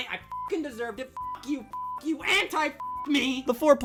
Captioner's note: beeps